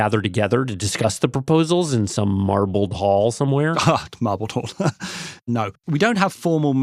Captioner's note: laughs